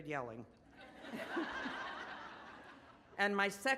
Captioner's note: audience laughs